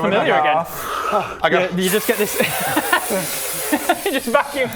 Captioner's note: desperately inhales